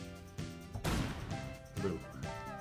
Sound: explosion echoes

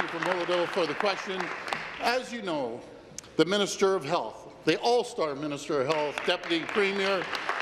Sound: applause

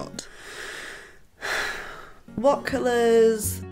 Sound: dramatic sigh

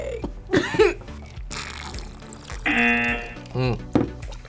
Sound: laughs; both slurping; buzzer

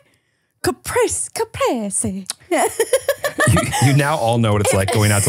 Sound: laughing

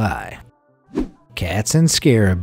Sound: air whooshing

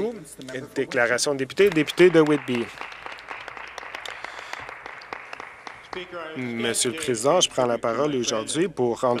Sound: some Applause

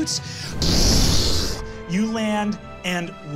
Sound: blowing air

